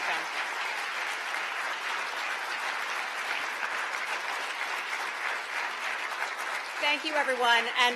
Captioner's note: applause